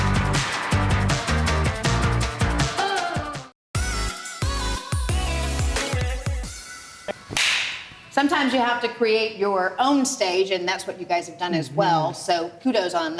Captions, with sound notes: (electronic hip hop music) (slap) - Sometimes you have to create your own stage and that's what you guys have done, as well.